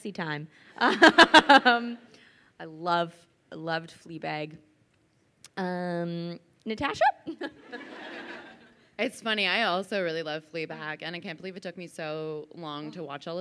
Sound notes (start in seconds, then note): 0.1 laughs; 7.4 crowd laughs